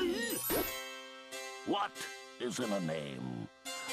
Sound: none

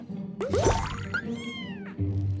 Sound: meowing

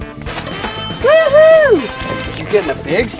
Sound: cash register dinging

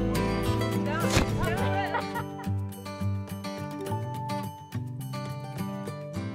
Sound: laughs

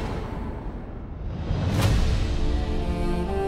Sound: atmospheric sound

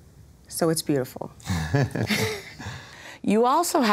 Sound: laugh

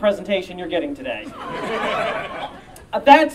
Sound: audience Laughter

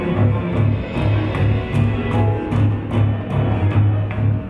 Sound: feet stomping

